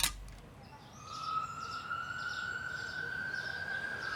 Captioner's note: siren wailing